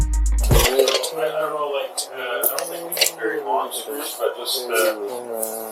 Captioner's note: humming random song